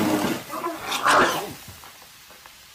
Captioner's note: Coke gurgling; person gagging; Coke fizzling